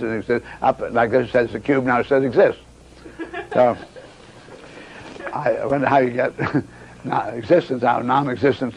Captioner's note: audience laughs